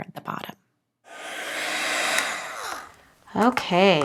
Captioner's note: machine whirring